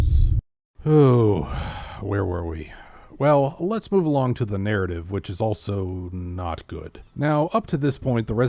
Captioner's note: sighs